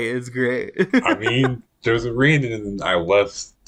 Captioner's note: laughs